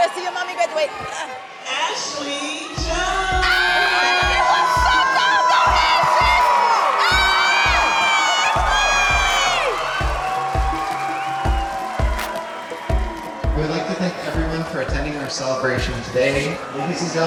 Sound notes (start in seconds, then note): 3.7 audience cheering; 11.1 fast upbeat music